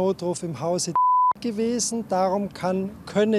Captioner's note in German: Piep